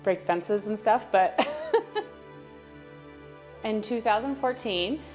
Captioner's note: chuckling